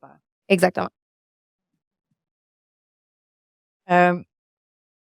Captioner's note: speaking French